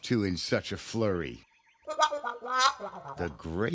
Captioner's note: hooting